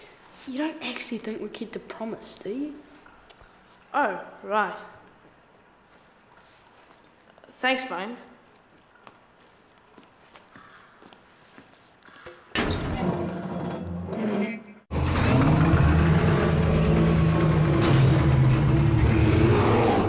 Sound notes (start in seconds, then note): 14.9 rumbling and growling